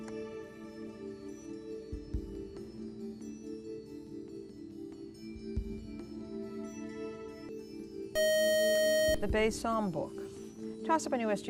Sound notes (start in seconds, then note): 8.1 buzzer